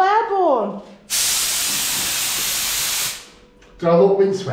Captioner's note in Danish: kompressorluftstøj